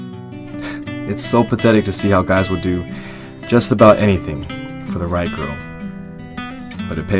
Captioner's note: scoffs